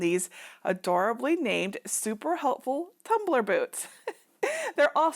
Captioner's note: chuckling